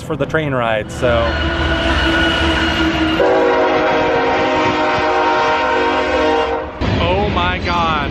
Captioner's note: loud train horn blares